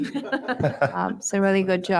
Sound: board members laugh

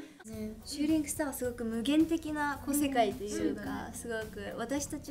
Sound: speaks in Japanese

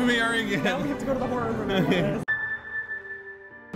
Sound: nervous laughter

